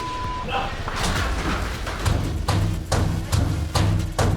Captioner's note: chair thudding; banging